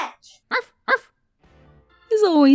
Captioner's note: arf